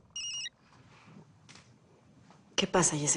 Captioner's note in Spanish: Suena un celular